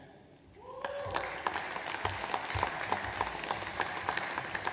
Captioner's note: audience applauds